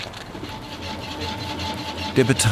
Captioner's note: machine noise